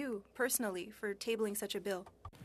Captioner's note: speaking french